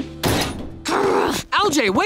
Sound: growling

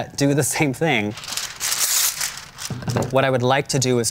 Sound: paper ripping

